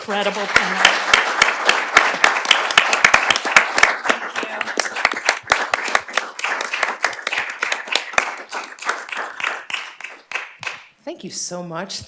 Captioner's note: applause